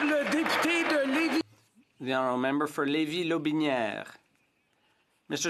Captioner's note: some Applause